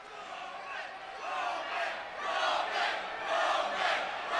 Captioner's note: crowd chants "Roman"